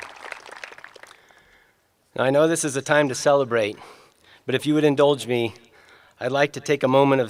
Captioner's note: applause